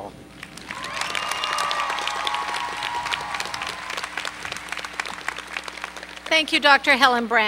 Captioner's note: applause